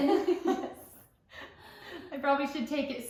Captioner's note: laughter